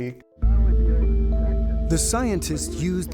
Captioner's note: radio chattering